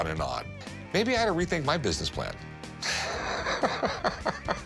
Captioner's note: laughing